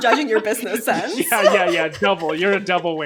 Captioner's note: both laughing